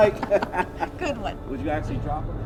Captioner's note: laughing